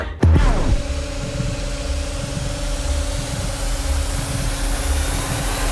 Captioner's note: hydraulic machine running